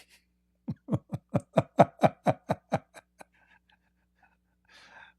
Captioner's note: Ketawa